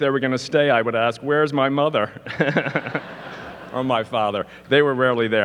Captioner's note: laughs